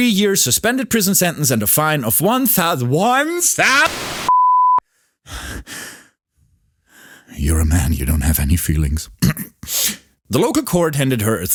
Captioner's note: technical difficulties* *beep